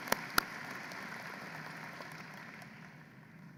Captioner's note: applause